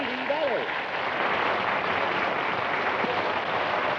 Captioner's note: cheering and applause